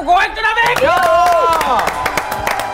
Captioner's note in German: Jubel